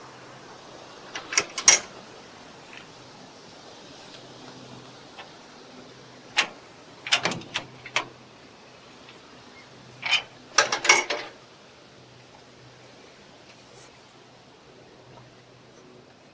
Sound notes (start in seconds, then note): 1.1 gate noise; 7.0 latch noise; 9.9 more gate noise